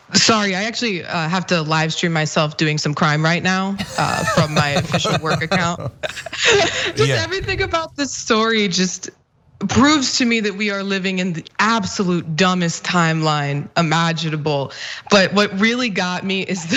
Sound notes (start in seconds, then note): 3.8 laugh